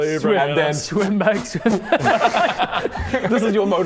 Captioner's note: pfft pfft pfft